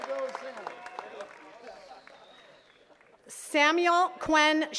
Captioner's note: attendees cheering and clapping; attendees chattering